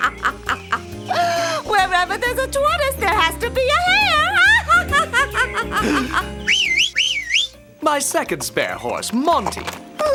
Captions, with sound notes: - Wherever there's a tortoise, there has to be a hare. (whistles) - My second spare horse, Monty.